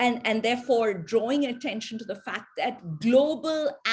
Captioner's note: sirens blaring